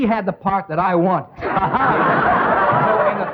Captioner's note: all laughing